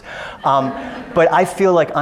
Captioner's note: audience laughs